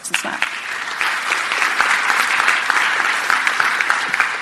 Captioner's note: audience applauding